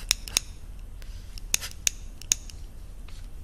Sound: lighter lighting sound

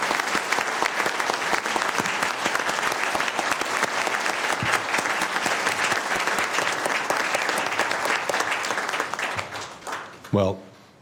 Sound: applause

